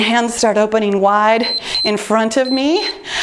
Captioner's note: timer beeps